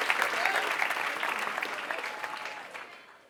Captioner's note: applause